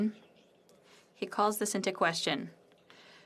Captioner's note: speaking French